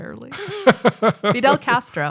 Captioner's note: chuckling